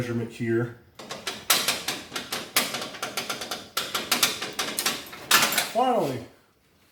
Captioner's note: steel line clangs